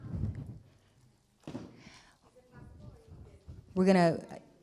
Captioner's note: indistinct conversation